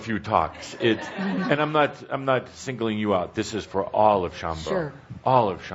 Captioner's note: laughter